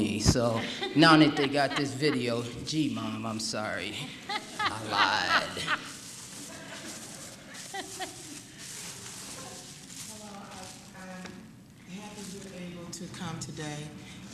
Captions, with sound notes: so, now that they got this video. gee mom i'm sorry (laughter) i lied hello, i'm happy to be able to come today